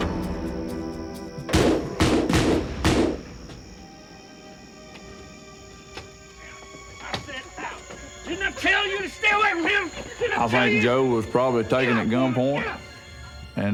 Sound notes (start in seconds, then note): 1.5 gunfire